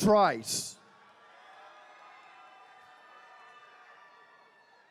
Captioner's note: attendees cheering